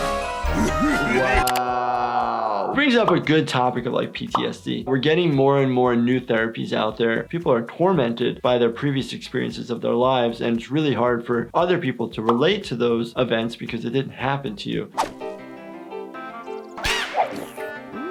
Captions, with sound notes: (Flippy evil laughing) Wow. Brings up a good topic of like PTSD. We're getting more and more new therapies out there. People are tormented by their previous experiences of their lives. And it's really hard for other people to relate to those events because it didn't happen to you. (playful music)